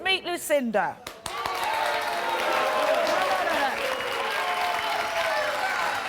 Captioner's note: applause and booing